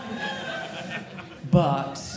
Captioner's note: audience laughing